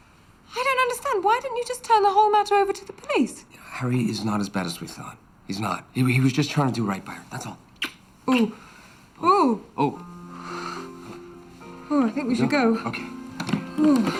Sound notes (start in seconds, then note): 8.3 groaning